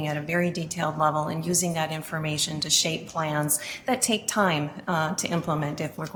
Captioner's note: none